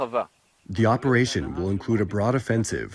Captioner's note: through translator